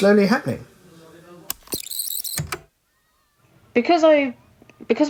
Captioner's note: the tape whirrs, fast forwarding